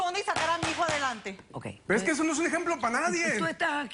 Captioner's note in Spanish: martillazos